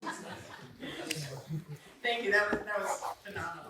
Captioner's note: laughter